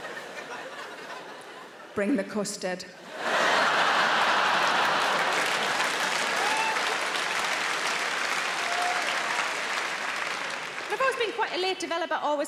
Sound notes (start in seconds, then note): 3.1 audience laughing; 5.2 audience applauding